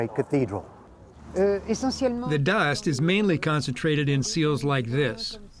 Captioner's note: through translator